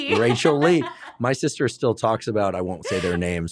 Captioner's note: laughs; laughs